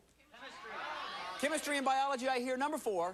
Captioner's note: audience shouting suggestions